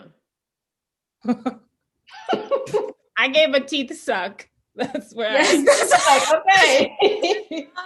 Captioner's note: laughs